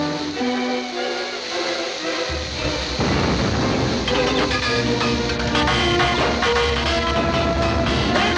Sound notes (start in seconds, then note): 2.3 metallic creaking; 3.4 oil splattering